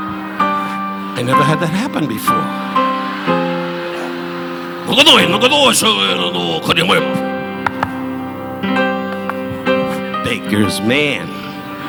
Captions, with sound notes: I never had that happen before. (Don speaking in a foreign language) (both clapping) Baker's man.